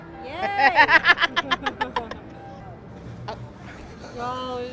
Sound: laughing

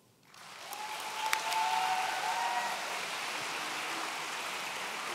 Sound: audience cheering

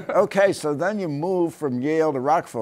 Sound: laughter

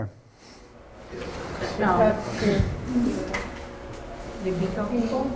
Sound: students mumbling

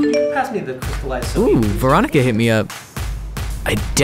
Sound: notification Ding

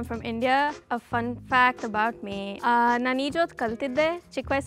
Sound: speaking foreign language

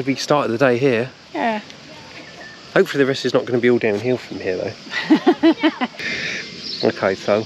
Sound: laughter

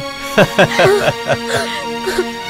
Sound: crying

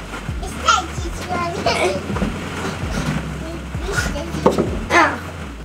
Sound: mumbling in background

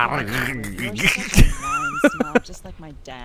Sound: laughs

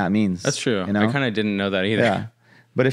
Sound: laughs

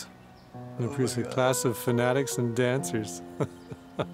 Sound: chuckling

